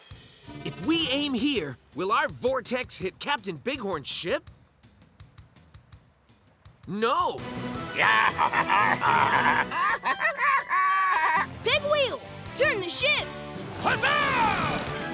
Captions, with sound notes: If we aim here, will our vortex hit Captain Bighorn's hip? No. [baaing] Pegwheel, turn the ship! Huzzah!